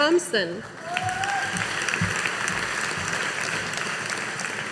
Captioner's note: audience applauding